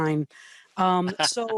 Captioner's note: laughs